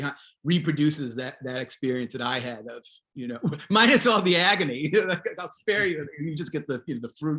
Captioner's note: chuckles